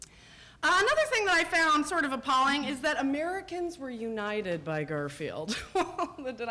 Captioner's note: chuckles